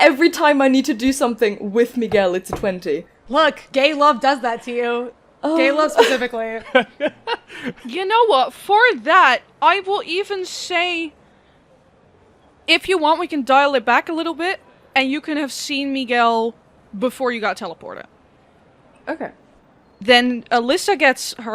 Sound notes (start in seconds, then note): 6.5 laughter